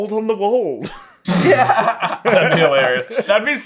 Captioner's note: bursts into laughter